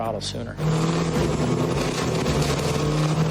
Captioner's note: engine revving